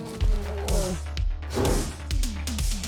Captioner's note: moans; snorts